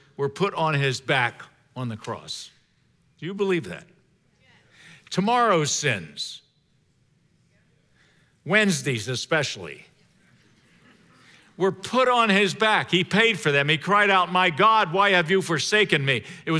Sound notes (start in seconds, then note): 10.2 congregation laughing